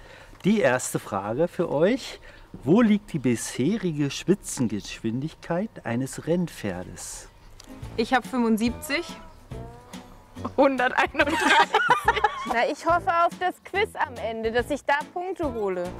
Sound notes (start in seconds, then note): 11.2 laughing